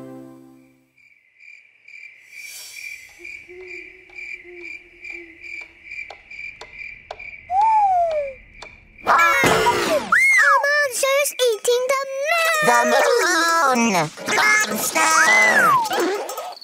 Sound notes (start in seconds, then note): 2.4 owl hoots; 2.8 clock ticks; 2.8 crickets chirp